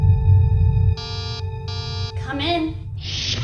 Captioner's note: door buzzes